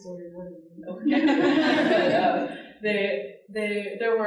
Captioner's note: audience laughing